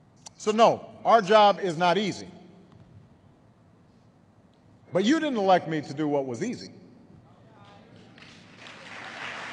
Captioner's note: applause